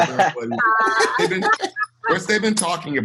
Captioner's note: all laughing